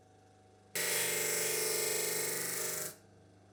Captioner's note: sanding